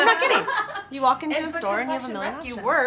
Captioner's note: laugh